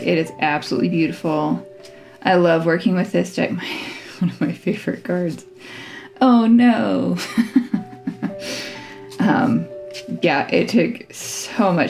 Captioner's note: laugh